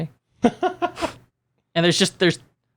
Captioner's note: laughs